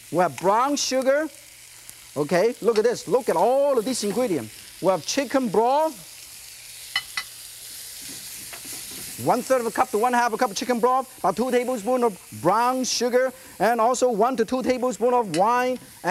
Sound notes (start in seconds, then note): none